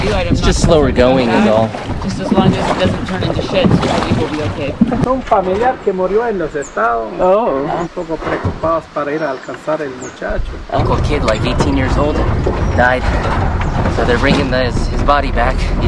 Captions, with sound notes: - It's just slower going in all. - Just as long as it doesn't turn into shit, I think we'll be okay. (speaking in Spanish) - Uncle kid, like 18 years old died, so they're bringing his body back.